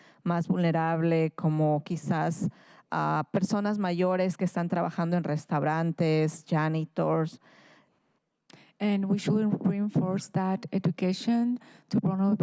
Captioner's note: speaking in spanish